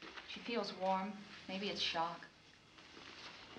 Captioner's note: none